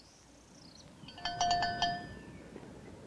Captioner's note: bell ringing